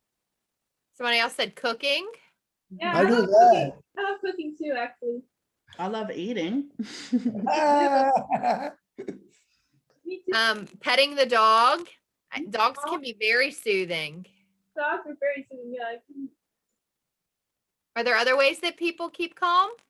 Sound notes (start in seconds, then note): 6.9 laugh